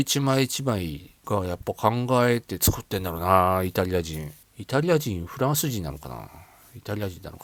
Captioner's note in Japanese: none